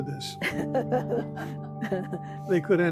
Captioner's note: chuckling